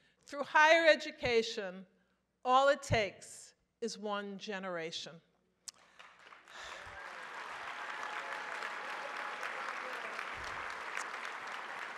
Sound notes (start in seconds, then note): 5.8 audience applauds